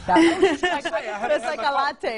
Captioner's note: all laugh